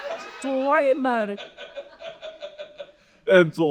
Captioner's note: audience laughing